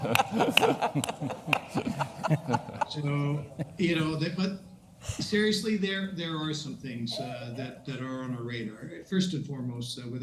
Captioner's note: laughter